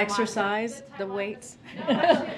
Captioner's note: laughter